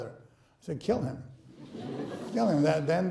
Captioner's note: laughing